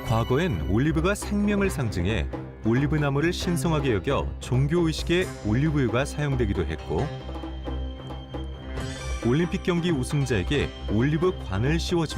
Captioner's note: voiceover